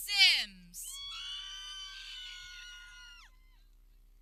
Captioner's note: people cheering